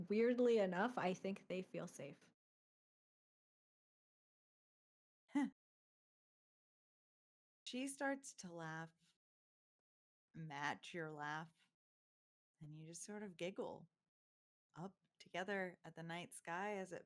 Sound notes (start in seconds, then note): 5.3 chuckles